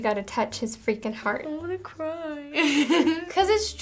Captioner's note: laughs